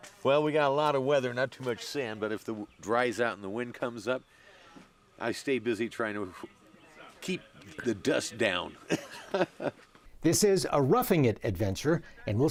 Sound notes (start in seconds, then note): 8.8 laughs